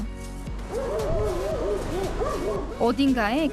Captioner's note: woof woof